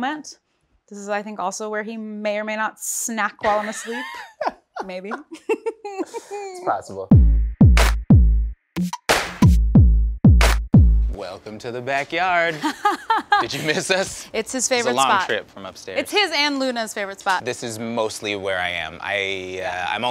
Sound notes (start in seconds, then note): 3.4 laughter; 8.8 upbeat music; 12.5 laughter